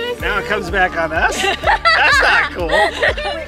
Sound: laughs

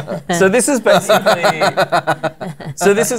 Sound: laughter

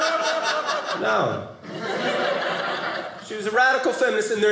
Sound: audience laughing

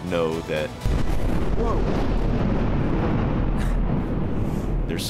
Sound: explosion

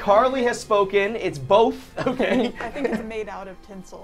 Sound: laughs

